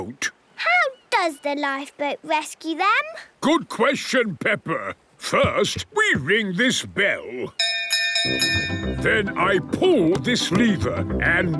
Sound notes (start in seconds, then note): 7.6 bell chimes